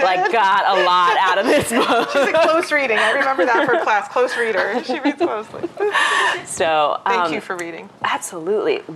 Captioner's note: laughter